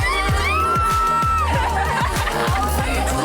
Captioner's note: screaming